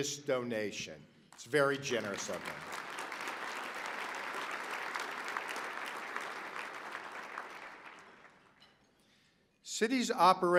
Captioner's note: applause